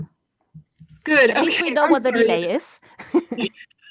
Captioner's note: laughing